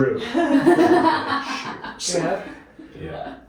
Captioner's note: laughter